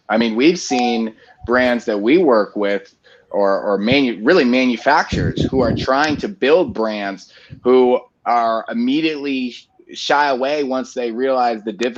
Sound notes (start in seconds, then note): none